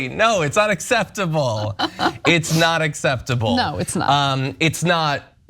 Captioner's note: laugh